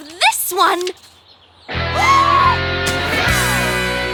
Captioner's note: both gasping